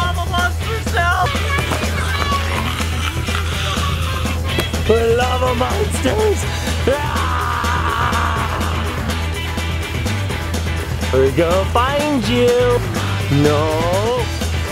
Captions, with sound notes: - We're lava monsters now? (growls) We're lava monsters, ahhhh! We're going to find you. No.